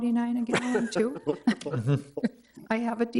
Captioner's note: members laughing